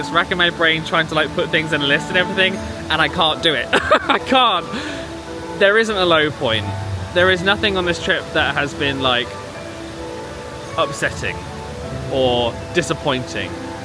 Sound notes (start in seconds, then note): 3.6 laughs